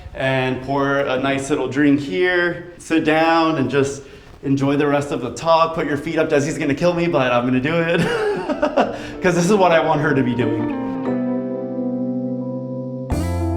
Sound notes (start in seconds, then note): 7.8 laughing; 10.7 upbeat music